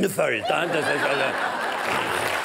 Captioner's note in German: Gelächter